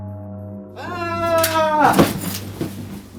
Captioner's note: screaming